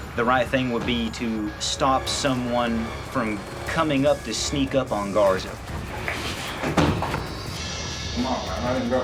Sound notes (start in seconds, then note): 6.5 clattering